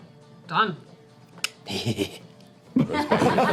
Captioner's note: laughs